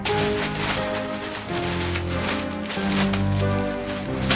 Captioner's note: paper ripping